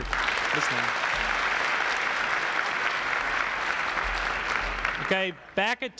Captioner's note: applause